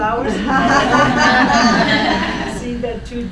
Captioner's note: laughing